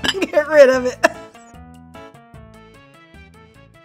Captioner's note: laughs